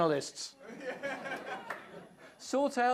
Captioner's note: laughter